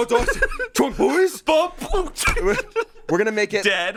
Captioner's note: laughs